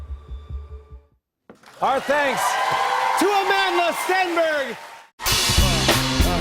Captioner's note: cheers and applause